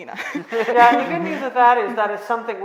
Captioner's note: all laughing